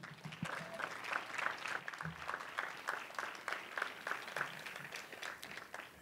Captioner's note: applause